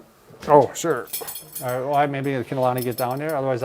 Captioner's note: belt jingles